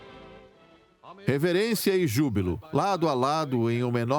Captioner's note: voiceover